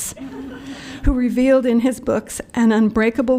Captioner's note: laughter